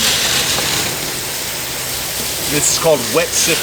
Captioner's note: water splashing